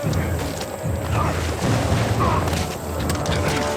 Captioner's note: grunting